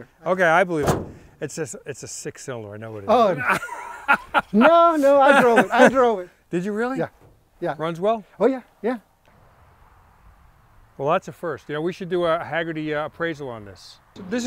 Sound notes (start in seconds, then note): 3.2 laughs